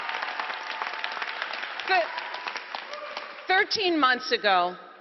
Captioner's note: applause